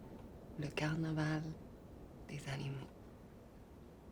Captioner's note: French spoken audio